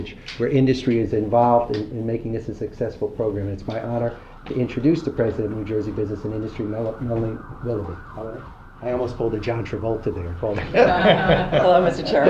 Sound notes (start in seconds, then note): 10.5 laughter